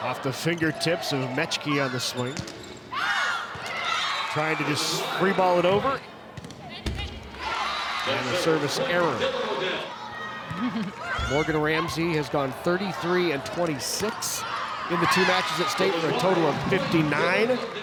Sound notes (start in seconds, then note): 6.8 ball thumping; 7.4 audience cheering